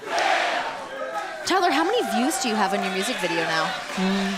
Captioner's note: fans chanting